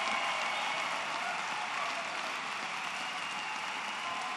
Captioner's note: applause